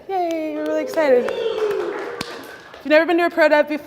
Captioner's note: classroom cheering